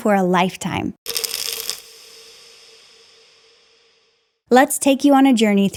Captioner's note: pills rattling